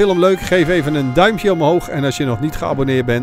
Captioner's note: voiceover